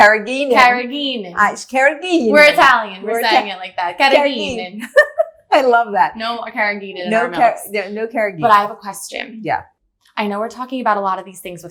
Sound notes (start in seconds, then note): 4.8 laughs